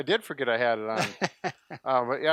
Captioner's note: chuckling